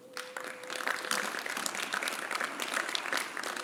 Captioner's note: applause